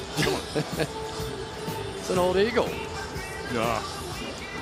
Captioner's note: laughs